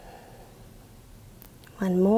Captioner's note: exhales